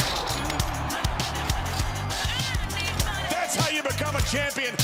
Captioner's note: crowd cheering